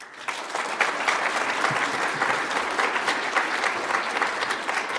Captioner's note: audience applauds